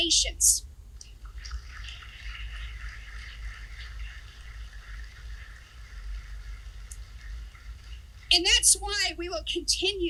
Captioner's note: applause